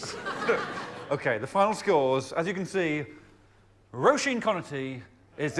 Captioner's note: cheers